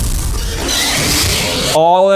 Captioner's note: Basilisk screeches